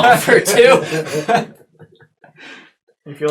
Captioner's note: all laugh